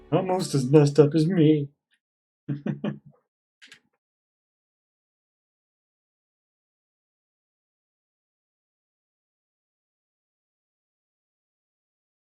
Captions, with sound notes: Almost as messed-up as me! [chuckles]